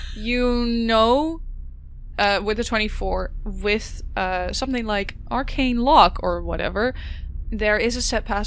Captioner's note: laughs